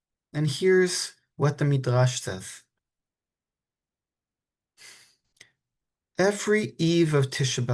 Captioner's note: soft exhale